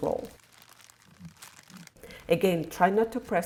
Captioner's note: plastic crackling